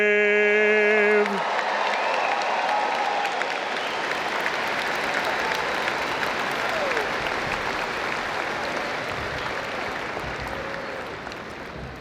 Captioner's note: applause